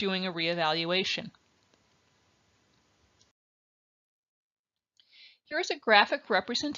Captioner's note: silence